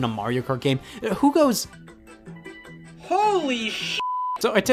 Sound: beep

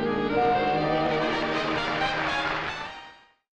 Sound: upbeat music; audience clapping

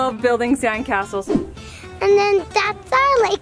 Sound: air whooshing

